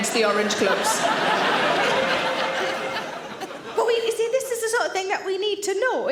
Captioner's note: audience laughs